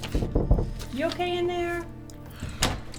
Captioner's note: knocking on door